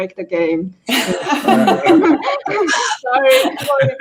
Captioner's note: everybody laughing; murmuring